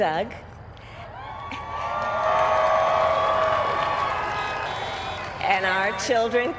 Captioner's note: applaud